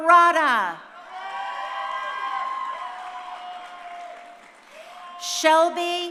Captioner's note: crowd cheering